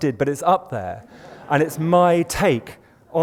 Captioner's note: laughter